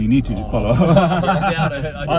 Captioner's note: all laugh